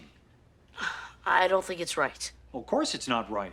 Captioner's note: sighs